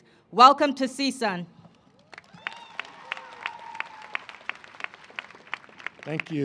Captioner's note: applause